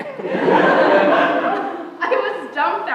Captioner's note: laughter